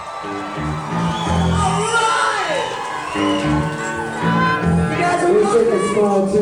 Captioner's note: crowd cheering